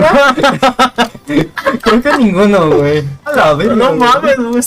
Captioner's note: both laugh in mexico is porud of you